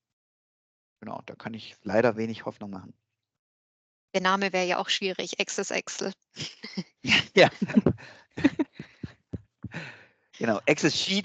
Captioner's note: laugh